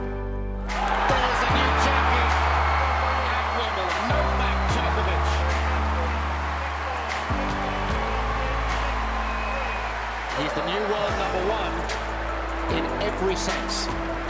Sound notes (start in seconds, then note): 1.2 cheering; 7.2 cheering